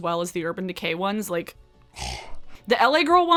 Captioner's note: sighs